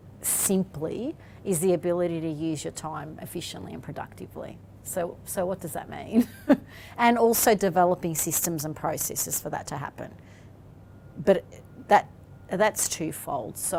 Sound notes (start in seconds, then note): 7.7 laughs